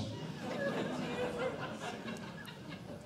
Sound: audience Laughing

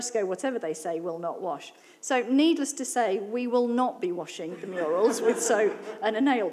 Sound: laughter

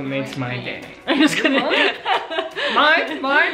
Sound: laughs

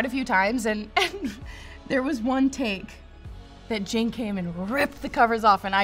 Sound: giggles

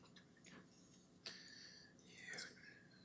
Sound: whispering

